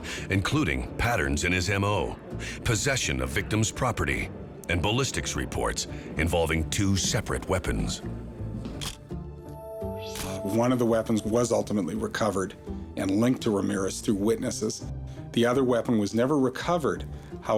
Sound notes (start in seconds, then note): 8.4 camera shutter click